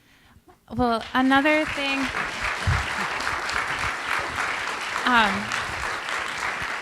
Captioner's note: applause